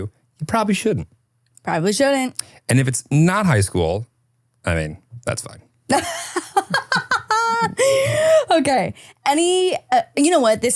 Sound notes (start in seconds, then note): 5.9 laughing